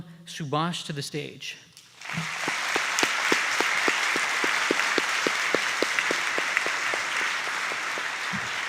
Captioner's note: applause